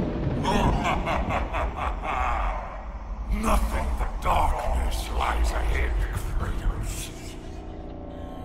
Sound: laughs

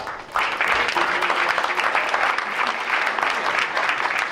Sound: crowd applauds

